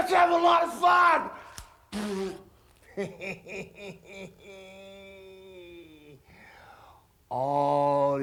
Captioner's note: laugh